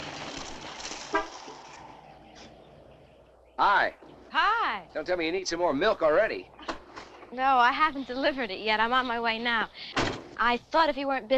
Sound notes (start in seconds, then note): 1.1 car horn honks